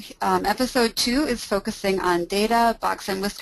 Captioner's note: voiceover